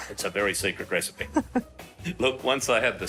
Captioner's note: laughing